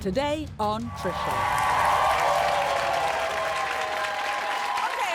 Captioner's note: audience applauding and cheering